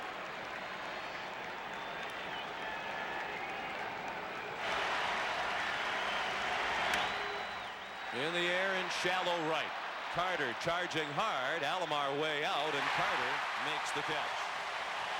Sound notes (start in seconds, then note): 3.5 applause